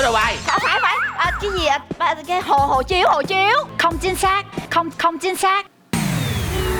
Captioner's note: in Vietnamese